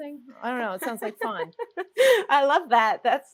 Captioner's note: laughs